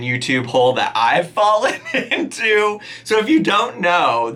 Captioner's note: laughing